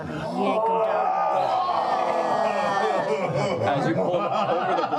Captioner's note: appreciative groaning